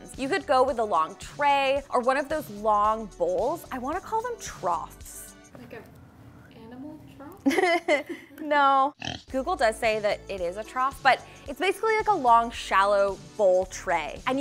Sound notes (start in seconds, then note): 7.5 laughing; 9.0 pig oinking